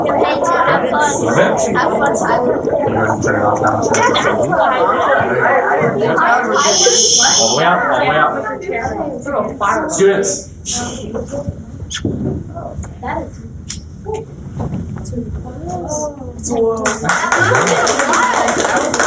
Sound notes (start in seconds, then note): 16.9 gasps and applause